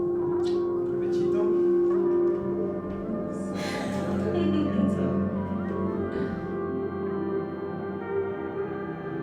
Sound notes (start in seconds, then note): 3.5 laughs